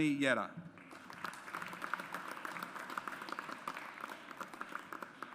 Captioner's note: audience applauds